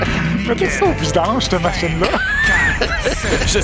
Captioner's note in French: rires